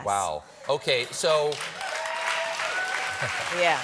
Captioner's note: applause